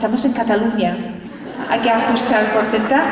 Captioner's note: laughter